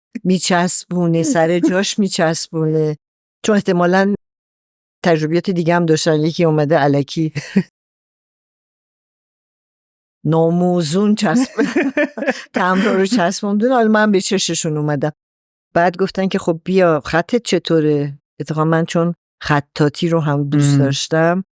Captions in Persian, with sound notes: می‌چسبونه، سر جاش می‌چسبونه. چون احتمالاً تجربیات دیگه هم داشته‌ن. یکی اومده الکی ناموزون چسب... (خنده) تمبرها رو چسبونده، حالا من به چشمشون اومدم. بعد گفتن که خب بیا... خطت چطوره؟ اتفاقاً من چون خطاطی رو هم دوست داشتم